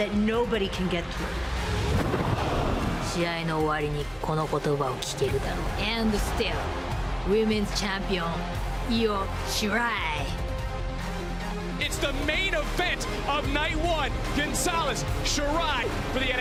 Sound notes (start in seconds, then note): 3.9 foreign language